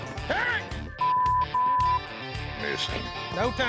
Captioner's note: shouting, swearing